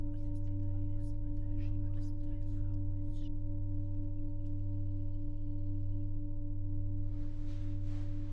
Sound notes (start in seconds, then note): 2.7 people whispering continues; 7.0 low humming continues